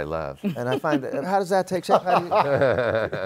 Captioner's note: laughs